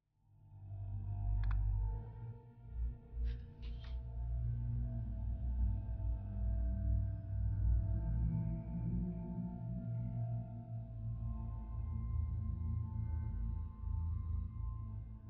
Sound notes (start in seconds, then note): 1.2 remote clicks